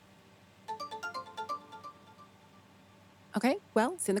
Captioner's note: phone ringing